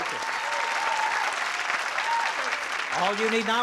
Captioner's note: applause and cheering